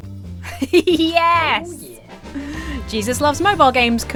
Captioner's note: giggles; inhales sharply